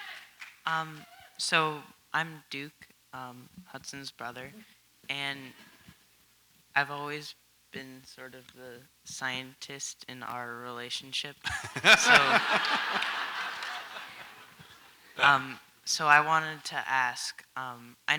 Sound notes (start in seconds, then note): 11.4 audience laughs